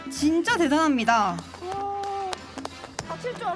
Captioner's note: applause